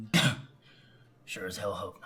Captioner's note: Hank scoffs